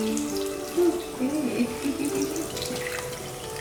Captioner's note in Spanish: Risas